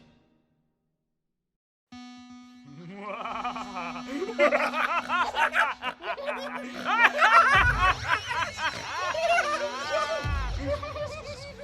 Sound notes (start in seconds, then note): 3.8 maniacal laughter